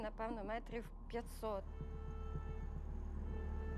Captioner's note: horn blaring